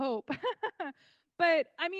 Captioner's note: laughing